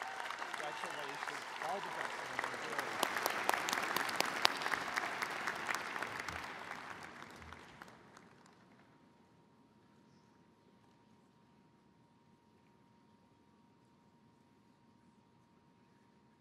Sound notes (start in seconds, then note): 3.9 applause